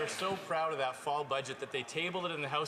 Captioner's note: some Applause